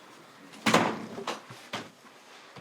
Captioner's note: door shuts